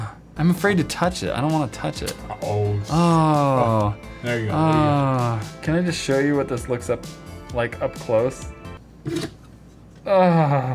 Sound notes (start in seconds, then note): 4.3 sounds of digust